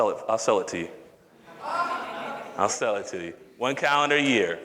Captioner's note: audience laughter